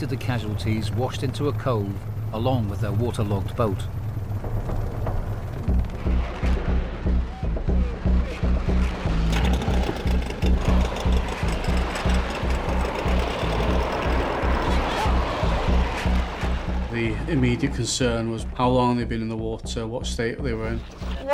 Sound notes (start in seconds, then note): 4.0 helicopter whirring; 5.6 intense music; 7.1 radio vocalizing; 9.2 boat droning; 15.0 intense music